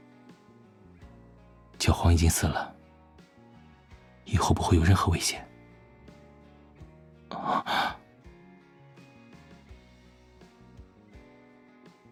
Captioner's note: gasps